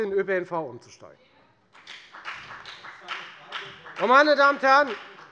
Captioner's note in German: Beifall bei der FDP